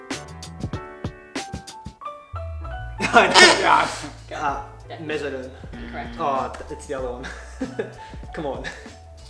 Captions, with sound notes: (chuckles) (squeaks) - Mesoderm? - Incorrect. - Oh, it's the other one. Come on.